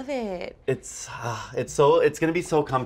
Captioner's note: sighs